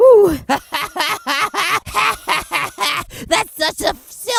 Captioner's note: laughing